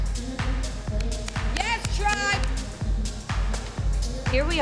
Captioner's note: applauds